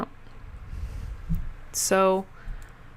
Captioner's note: intense mic-breath